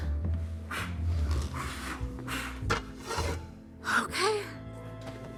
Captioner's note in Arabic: مايكل ينفخ; موسيقى أوركسترالية مشؤومة